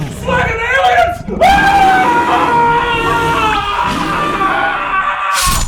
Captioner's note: screaming